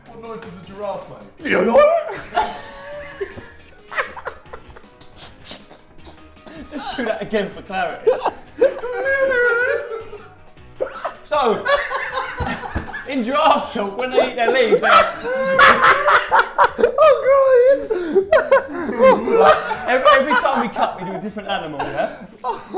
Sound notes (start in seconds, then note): 1.4 goofy noise; 1.4 laughing; 9.0 mimicking goofy noise; 16.1 laughing hysterically; 22.5 laughing